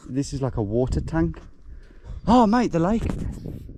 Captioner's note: none